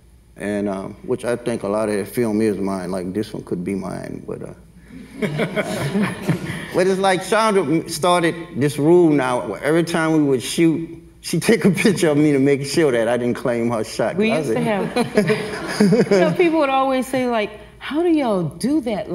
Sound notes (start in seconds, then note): 5.0 everyone laughs; 14.6 everyone laughs